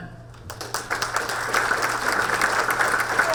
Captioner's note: audience applaud